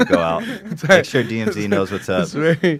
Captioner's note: laughs